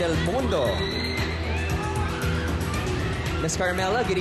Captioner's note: audience cheering